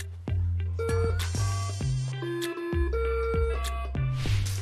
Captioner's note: beeping